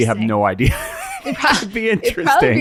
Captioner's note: laughs